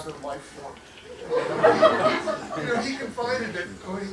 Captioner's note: laughter